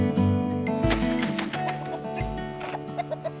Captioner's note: clucking of chickens